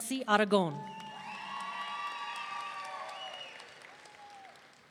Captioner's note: audience cheering